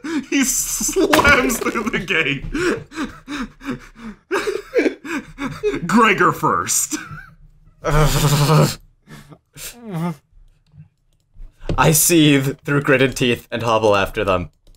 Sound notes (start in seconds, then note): 2.6 laughter